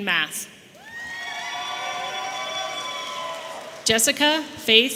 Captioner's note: audience cheering